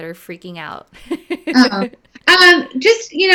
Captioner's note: laughing